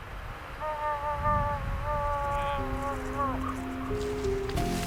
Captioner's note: moose bleats; moaning